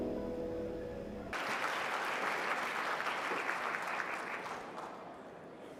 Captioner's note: audience applauds